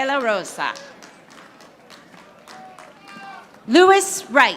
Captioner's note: audience applauding